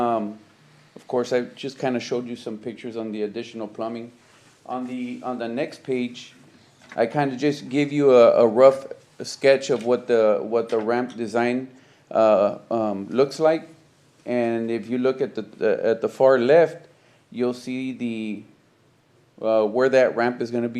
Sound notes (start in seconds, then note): none